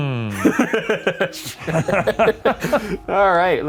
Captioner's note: both laughing